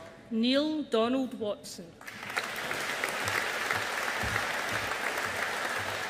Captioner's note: audience applauding